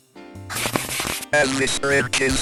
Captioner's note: quick erasing and drawing on a blackboard sound